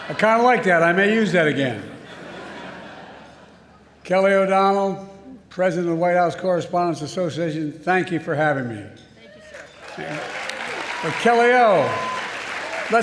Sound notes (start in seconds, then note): 9.4 applause